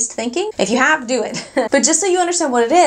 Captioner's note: laughing